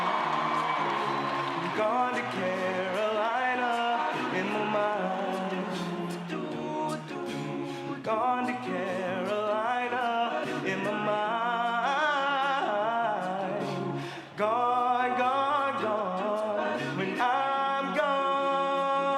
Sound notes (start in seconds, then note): 5.9 cheering